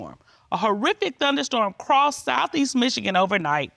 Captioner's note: judge dana reading